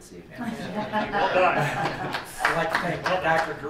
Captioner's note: laughing and clapping